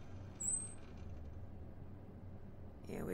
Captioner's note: the elevator dings and the doors open